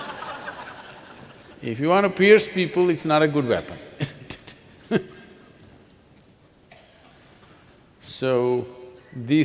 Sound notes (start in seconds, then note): 7.2 laughs